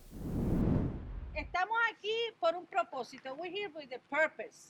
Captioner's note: speaking in Spanish language